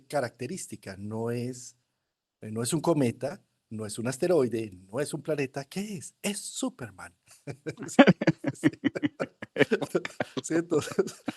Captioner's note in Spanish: risas